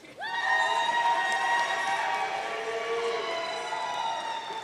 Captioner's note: audience cheering